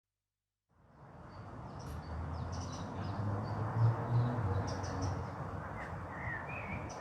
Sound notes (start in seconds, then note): 0.3 birds chirping in distance